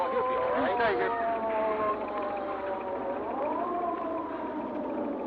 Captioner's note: siren retreating